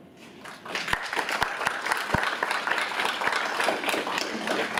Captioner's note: audience applauds